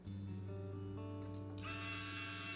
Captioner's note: click